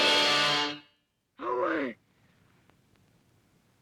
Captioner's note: crying out